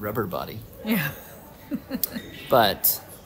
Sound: chuckling

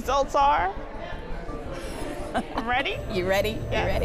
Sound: chuckling

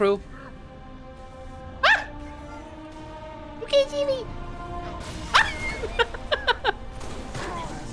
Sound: tiny voice; laughing

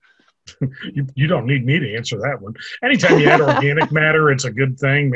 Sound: laughter

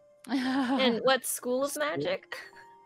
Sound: laughing

